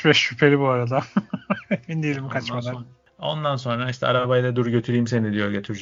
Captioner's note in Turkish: kahkaha